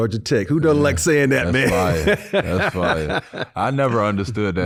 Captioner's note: Robert laughing